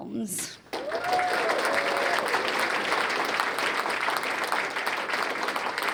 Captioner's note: cheers and applause